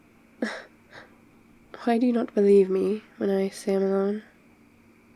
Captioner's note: short laugh